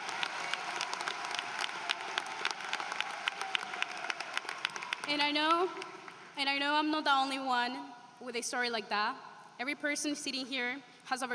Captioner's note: applause